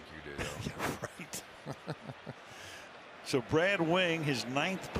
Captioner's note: laughing